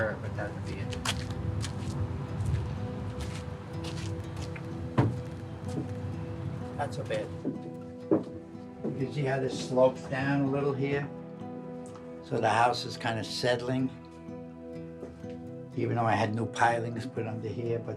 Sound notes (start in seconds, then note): 7.2 heavy footsteps